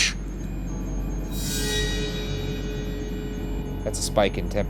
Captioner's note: REM-Pod beeping